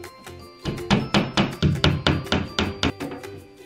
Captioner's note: hammering